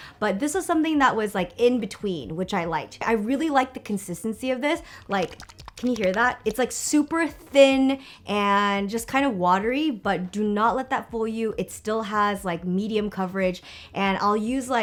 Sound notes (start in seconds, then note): 4.9 liquid sloshing